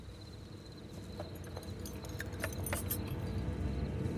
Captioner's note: metal jangles